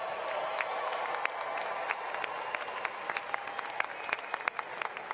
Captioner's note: cheering and applause